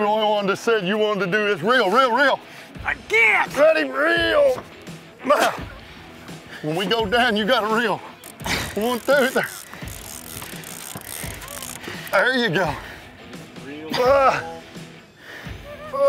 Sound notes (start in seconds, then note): 8.2 reeling noises; 14.7 grunting noises